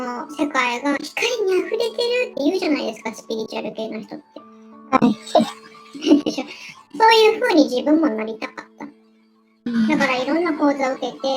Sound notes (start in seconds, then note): 5.0 laughs